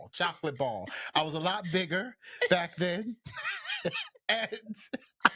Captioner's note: laughs